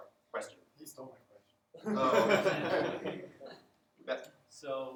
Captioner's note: laughter